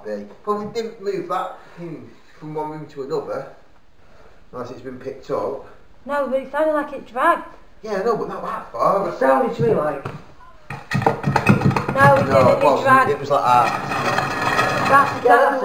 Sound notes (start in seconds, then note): 10.6 banging noise; 13.9 dragging noise